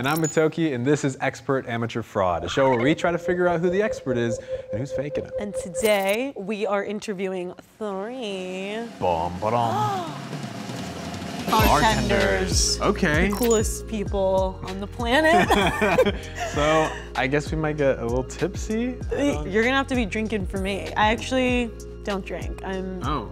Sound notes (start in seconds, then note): 8.7 drums; 15.3 chuckles